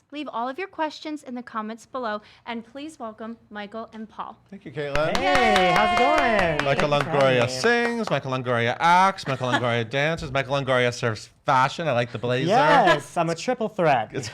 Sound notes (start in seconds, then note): 4.9 claps